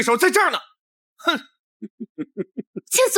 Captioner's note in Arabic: يضحك ساخرًا